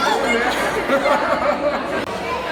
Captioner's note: hahahahaha!